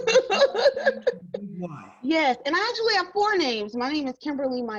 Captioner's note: laughing